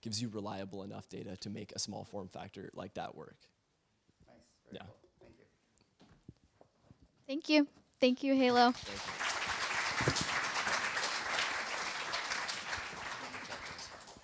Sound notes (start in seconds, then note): 8.5 applause